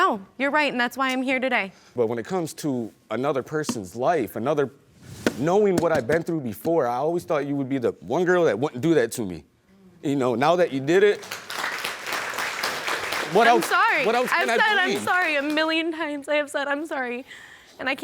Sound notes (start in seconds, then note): 11.0 audience clapping